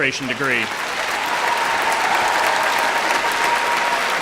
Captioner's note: applause